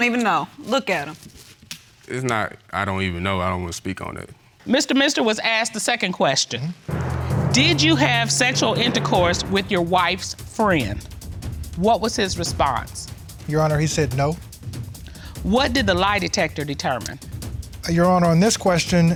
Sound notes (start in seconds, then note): none